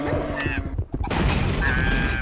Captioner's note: squawking; crash